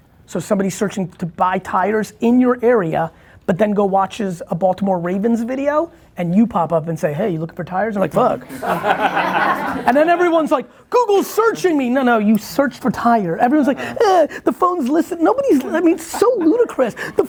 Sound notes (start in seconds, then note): 8.4 laughing